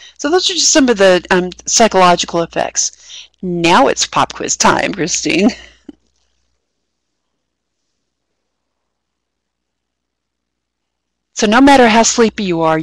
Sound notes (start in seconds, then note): 5.3 laughing